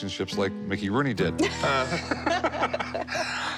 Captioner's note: laughter